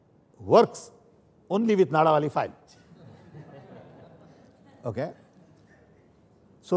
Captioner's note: laughter